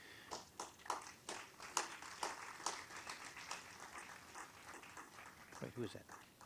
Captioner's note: applause